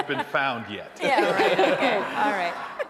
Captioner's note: attendees laughing; laughs